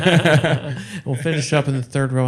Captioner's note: laughing